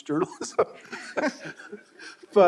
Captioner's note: all laughing